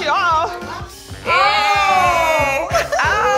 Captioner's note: yelling